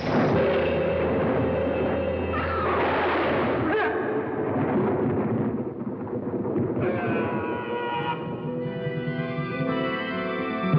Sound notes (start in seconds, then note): 2.5 grunting; 2.6 gunshot bangs; 6.8 Apache yelling; 10.5 somber music